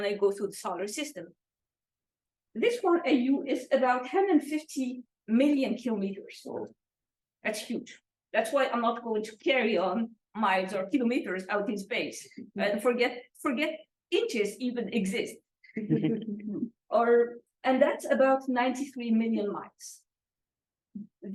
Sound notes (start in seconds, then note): 15.8 laughter